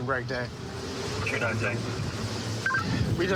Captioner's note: radio communication